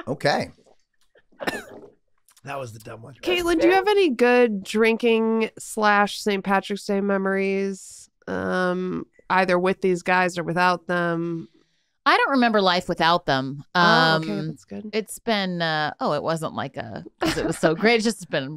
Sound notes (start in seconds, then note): 1.4 Glenn coughing